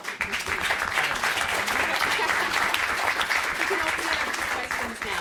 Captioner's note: audience applauding